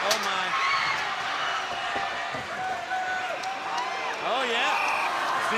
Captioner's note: crowd cheering